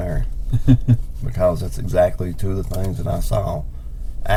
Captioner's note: chuckles